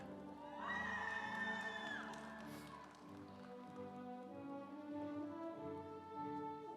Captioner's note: audience cheering; instrumental music